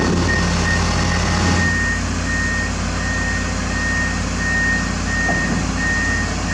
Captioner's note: engine revving